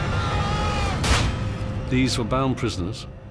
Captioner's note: gun bangs